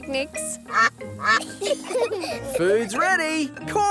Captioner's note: quacking; children giggle